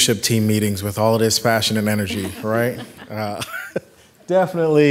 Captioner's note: chuckles